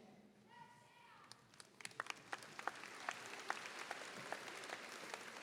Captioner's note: audience applauding